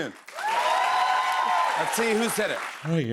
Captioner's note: loud cheers and applause